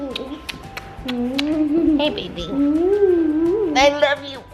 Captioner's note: kisses